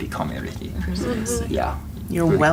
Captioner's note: students Agreeing